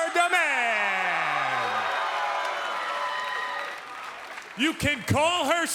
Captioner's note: cheers and applause